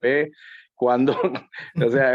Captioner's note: laugh